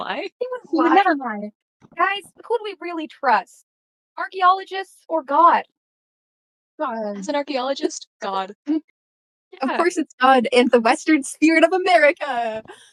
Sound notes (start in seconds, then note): none